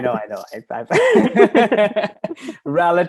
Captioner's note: laughter